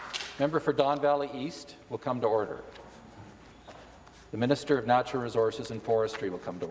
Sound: some Applause

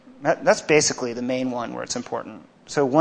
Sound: none

